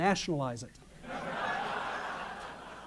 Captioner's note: laughter